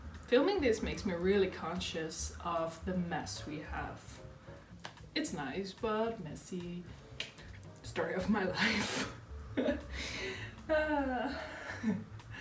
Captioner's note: dorky laughter